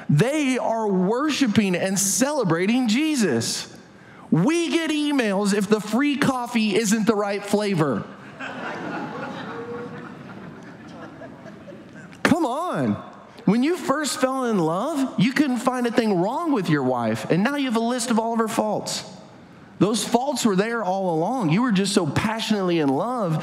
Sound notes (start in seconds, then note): 8.2 audience laughs